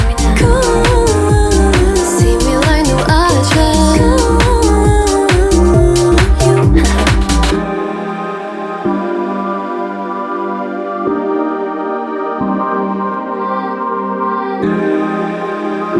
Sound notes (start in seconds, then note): 6.3 Haha